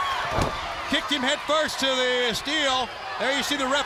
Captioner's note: crowd cheering